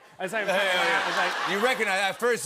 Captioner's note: laughter and applause